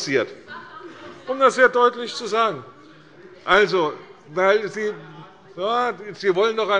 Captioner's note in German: Zurufe von der SPD